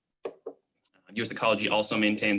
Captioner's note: clicking